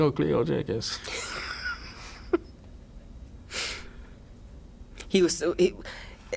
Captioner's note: interviewer and interviewee laughs